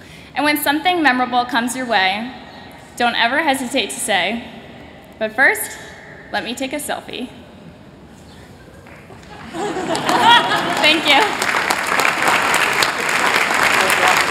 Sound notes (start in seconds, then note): 8.6 laughter; 11.6 applause